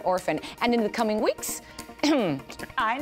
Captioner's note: clears throat